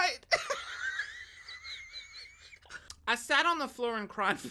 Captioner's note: laughs